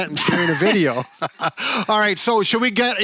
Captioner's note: laugh